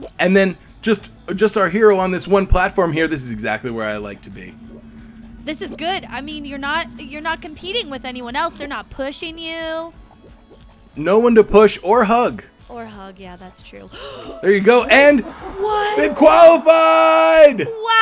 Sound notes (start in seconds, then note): 13.9 gasping